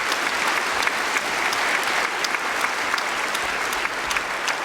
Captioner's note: applause